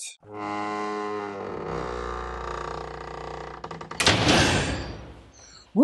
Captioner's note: large vault closing sound